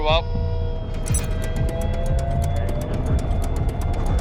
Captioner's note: tank revs